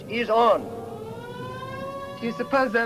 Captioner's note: sirens blaring